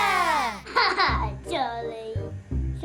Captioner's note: laugh